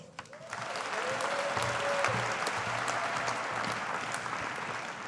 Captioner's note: audience applauding